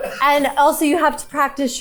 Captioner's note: crew member chuckling